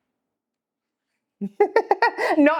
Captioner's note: laughs